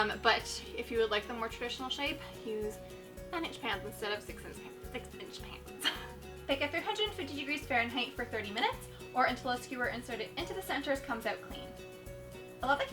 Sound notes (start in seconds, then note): 5.8 chuckles